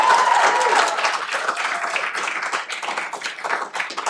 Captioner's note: cheering